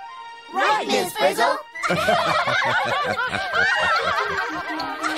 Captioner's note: laughter